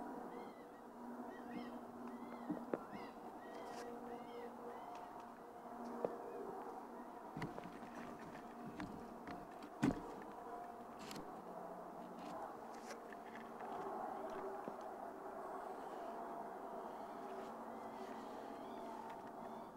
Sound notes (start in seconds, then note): 1.8 camera rustling